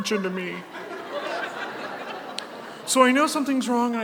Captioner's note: audience laughs